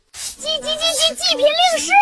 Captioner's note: chattering excitedly